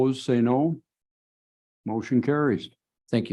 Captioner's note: silence